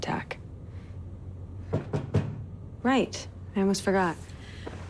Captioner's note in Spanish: llamando a la puerta